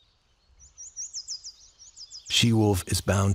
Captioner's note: birdsong